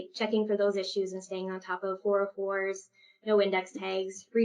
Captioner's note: echo